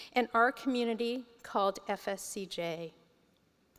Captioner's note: none